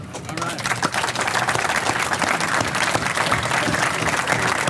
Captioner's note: audience applause